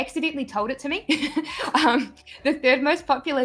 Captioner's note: laughs lightly